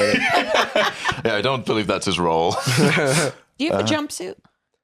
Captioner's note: laugh